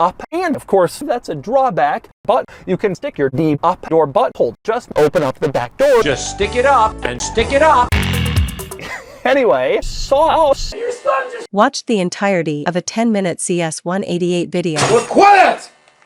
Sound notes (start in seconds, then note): 8.7 laughs